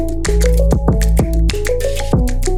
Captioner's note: none